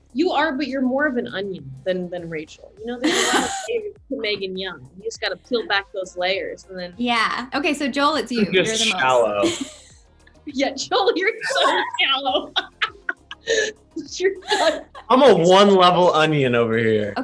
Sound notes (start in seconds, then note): 2.8 Meganne laughs; 11.3 all laugh